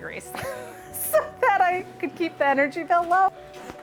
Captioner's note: laughs